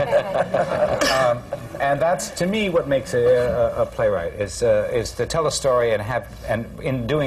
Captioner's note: laughter